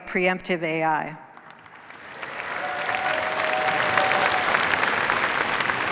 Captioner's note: cheers, applause